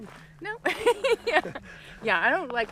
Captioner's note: laughs